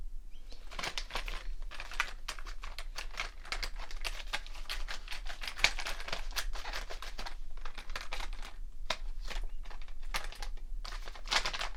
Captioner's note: rustling markers